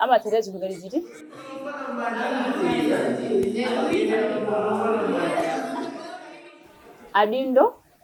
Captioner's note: people chatting